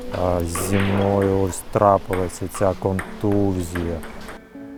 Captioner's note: stammers